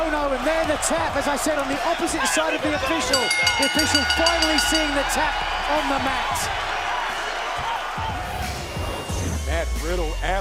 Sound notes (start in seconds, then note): 2.9 bell ringing